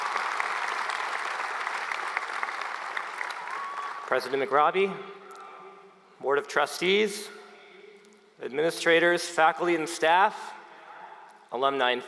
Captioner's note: applause